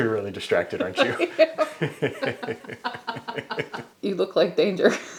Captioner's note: both laugh